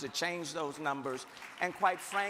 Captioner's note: crowd clapping